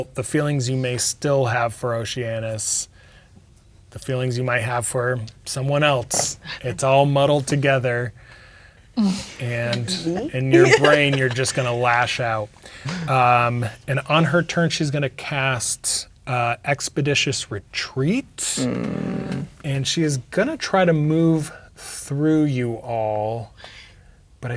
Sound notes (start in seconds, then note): 9.0 laughing; 18.4 groaning